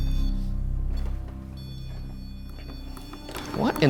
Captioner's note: REM-POD continues to beep